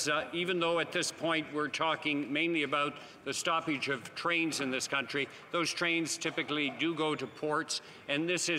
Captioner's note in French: voix de l'interprète